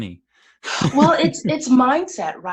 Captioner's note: laughs